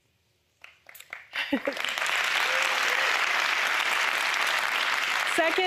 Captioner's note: applause